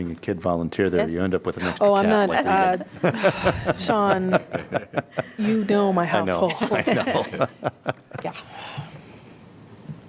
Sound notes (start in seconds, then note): 2.9 laughter